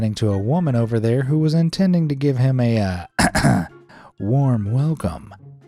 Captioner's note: clears throat